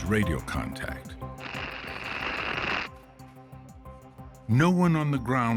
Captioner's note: radio static popping, ends abruptly